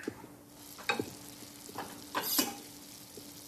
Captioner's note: egg frying